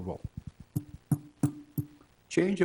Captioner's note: microphone taps